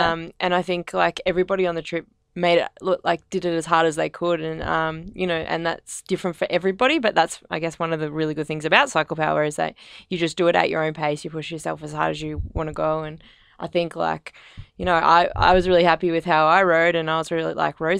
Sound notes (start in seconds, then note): none